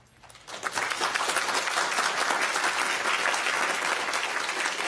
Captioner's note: audience applauding